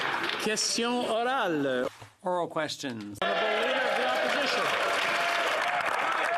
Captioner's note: some Applause